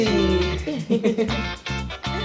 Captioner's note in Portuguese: risos